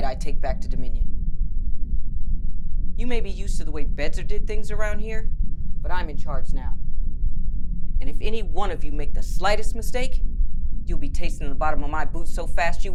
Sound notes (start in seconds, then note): none